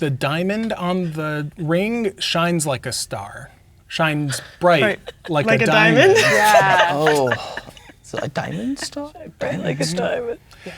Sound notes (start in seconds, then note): 8.5 laughing